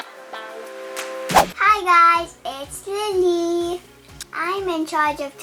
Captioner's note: air whooshing